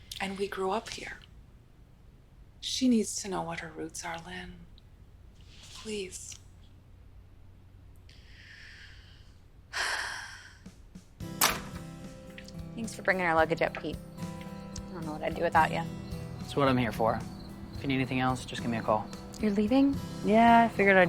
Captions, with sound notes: - And we grew up here. She needs to know what her roots are, Lynn, please. (Lynn sighs) (gentle music) (door bangs) - Thanks for bring her luggage up, Pete. I don't know what I'd do with you. - That's what I'm here for. If you need anything else just give me a call. - You're leaving?